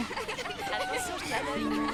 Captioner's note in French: bavardage indistinct; rires